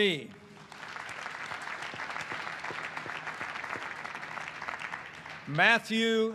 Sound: applause

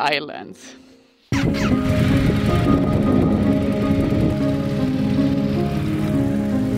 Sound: inspiring music; motors humming

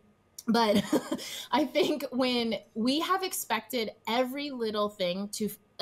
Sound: chuckles

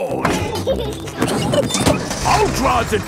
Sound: peppa and george laughing

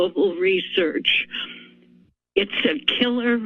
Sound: pause

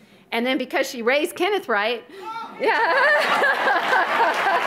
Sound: audience laughs

